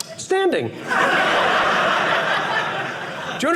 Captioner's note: audience laughing